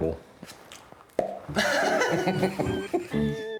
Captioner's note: makes popping sound; they laugh